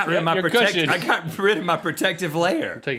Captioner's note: laughing